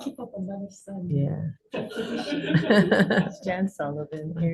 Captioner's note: laughter